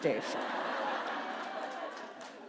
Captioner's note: laughter